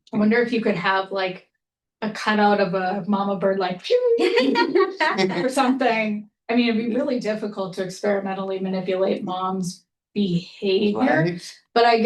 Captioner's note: audience laughing